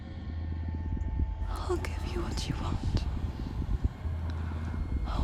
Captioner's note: whisper